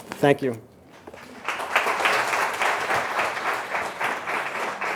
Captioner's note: audience applauding